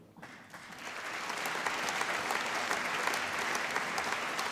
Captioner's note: applause